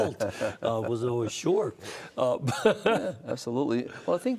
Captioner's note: laughter